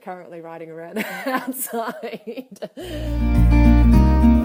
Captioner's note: laughs